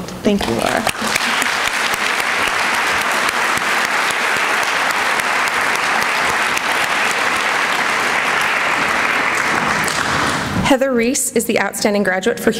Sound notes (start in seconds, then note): 0.8 applause